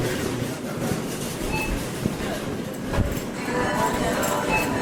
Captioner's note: checkout beeping